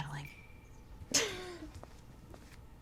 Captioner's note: chuckles